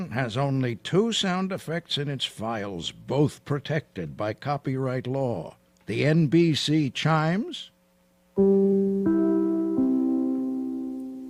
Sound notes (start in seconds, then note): none